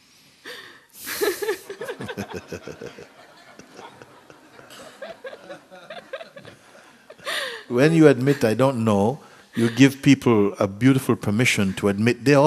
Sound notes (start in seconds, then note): 1.0 questioner laughs, Mooji laughs, audience laughs